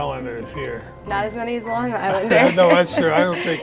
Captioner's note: laughs